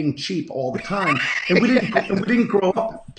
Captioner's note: laughing